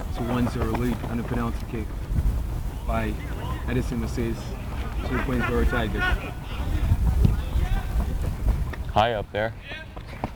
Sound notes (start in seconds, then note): 7.1 players shouting